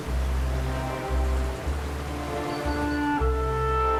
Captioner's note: water gushing